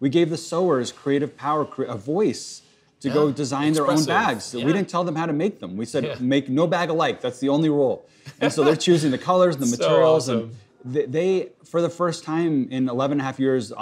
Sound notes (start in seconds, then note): 8.3 laughs